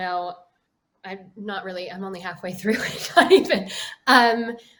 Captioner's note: laughs